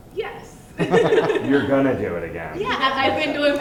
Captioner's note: voiceover; laughs; voiceover